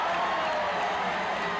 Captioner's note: crowd cheering